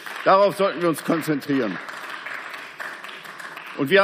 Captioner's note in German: Beifall